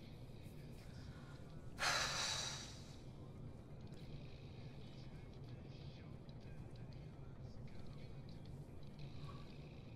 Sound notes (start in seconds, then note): 1.2 Eloise sighing